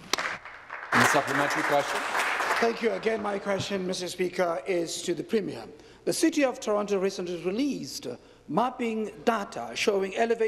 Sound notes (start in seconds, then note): 4.5 applause